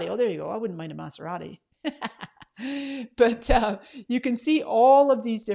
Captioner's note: laughs